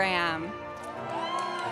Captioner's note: audience applauds throughout